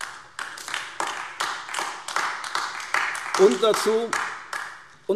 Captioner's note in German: Beifall AfD